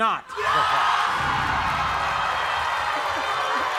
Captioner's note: cheering